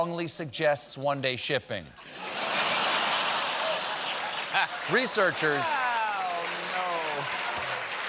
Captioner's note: laughter